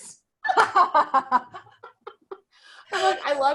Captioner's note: both laughing